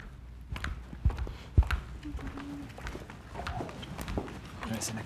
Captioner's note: footsteps clomping